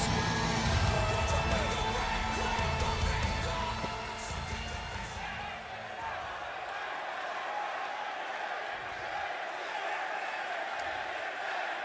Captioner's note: crowd cheering